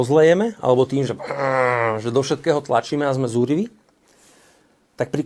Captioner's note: growls